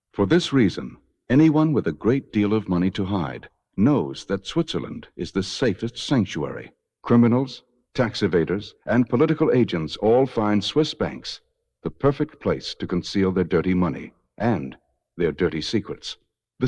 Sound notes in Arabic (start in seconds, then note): none